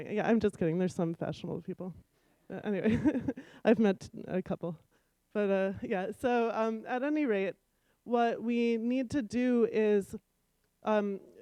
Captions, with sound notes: Yeah, I'm just getting there some fashionable people. Anyway, [chuckle] I've met a couple, but uhm Yeah, so uhm at any rate what we need to do is uhm.